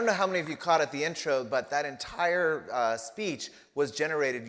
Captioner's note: applause